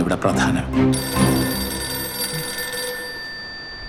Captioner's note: phone rings